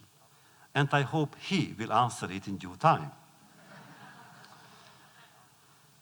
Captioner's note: laughter